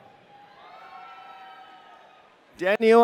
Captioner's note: audience cheering